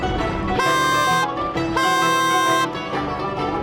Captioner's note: horn blowing